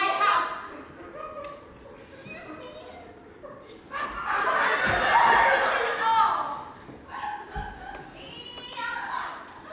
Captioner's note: audience laughs, as do cast